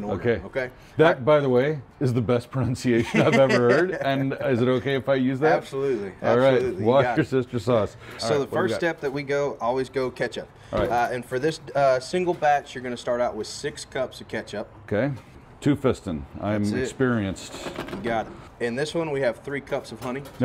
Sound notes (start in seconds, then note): 3.0 laughs